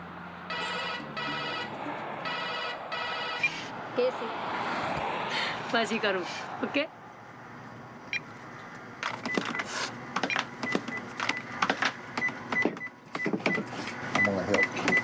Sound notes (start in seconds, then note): 0.5 phone Ringing; 4.5 foreign Language Spoken; 7.0 cash Register Sounds